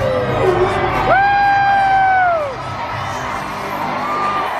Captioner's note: guests cheer